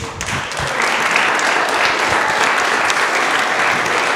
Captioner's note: audience applause